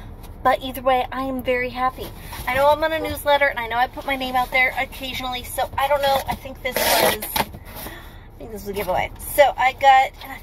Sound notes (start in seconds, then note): none